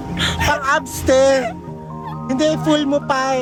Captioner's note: laughing; continuously laughing